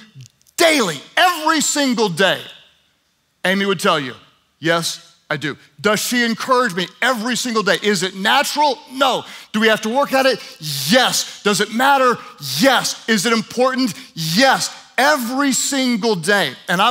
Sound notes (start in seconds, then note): none